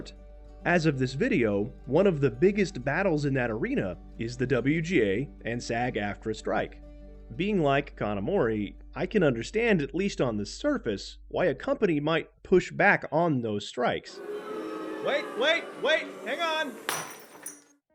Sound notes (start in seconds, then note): 14.1 crowd booing; 16.8 glass shattering